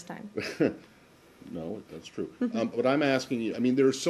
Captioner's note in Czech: zasměje se